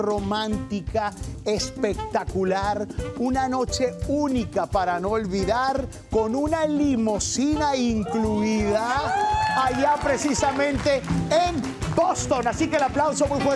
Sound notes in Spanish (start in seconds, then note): 8.0 Ovación